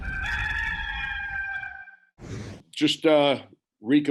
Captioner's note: cock crows